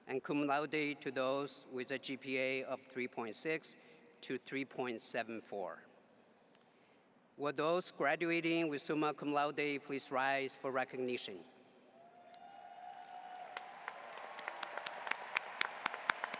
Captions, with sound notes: and Cum Laude to those with a GPA of 3.6 to 3.74. Will those graduating with Summa Cum Laude please rise for recognition? (audience applauding)